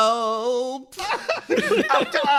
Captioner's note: laugh